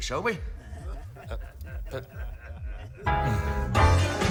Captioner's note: laughter